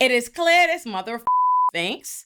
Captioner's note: beep